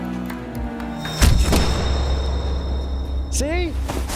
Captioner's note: gun fires